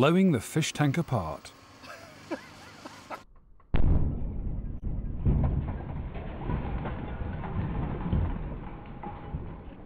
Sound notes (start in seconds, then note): 1.8 laughter; 3.7 boom!